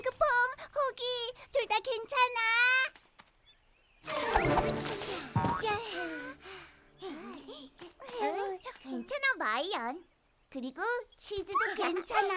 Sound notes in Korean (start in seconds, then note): 4.0 부스럭 소리; 4.0 쿵 소리; 11.5 웃음소리